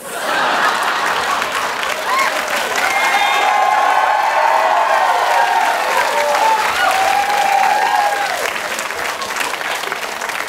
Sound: cheers

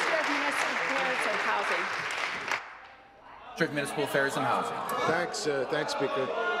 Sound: applause

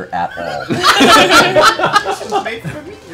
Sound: laughter

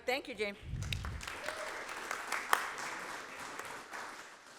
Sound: applause

